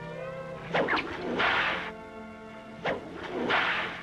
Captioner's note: cracking whip